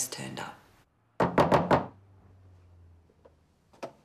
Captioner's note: knocking